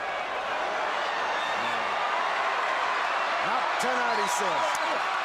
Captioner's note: crowd cheering